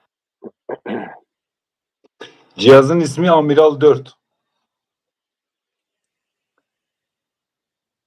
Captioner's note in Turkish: boğazını temizler